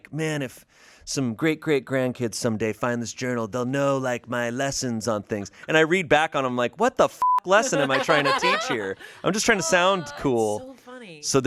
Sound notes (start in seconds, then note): 7.2 beep